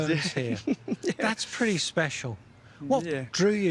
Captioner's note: laughs